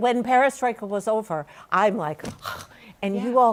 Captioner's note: sighs